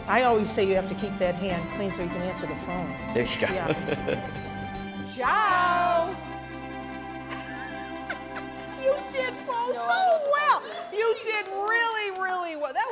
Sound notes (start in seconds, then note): 3.4 laughing; 7.3 gentle music; 9.3 laughing